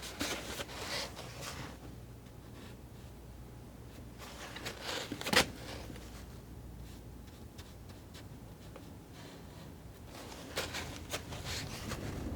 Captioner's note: scratching